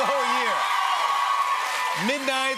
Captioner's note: cheers and applause